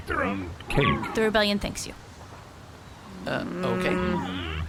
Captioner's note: none